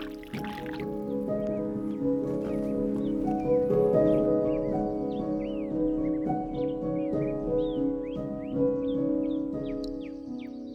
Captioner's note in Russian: пение птиц